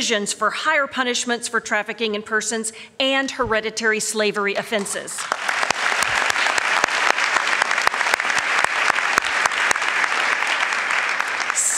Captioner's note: applause